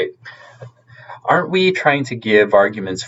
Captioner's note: chuckles